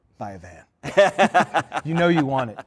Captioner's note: laughter